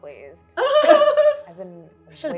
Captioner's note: laughing